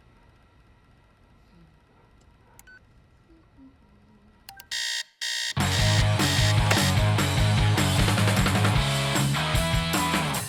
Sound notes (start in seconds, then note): 3.2 Izzie humming quietly; 4.6 alarm blaring; 5.6 energetic rock music